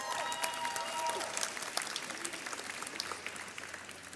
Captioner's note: audience cheers